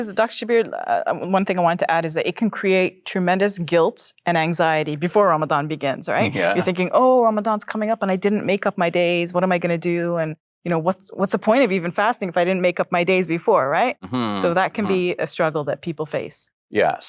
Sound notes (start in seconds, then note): 6.2 chuckles; 14.0 sighs